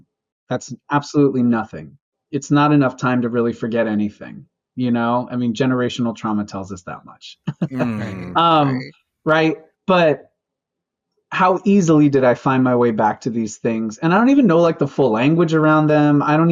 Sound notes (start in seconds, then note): 7.6 bitter laughter